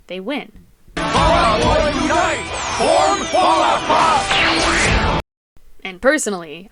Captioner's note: zap